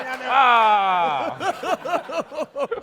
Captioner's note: laughter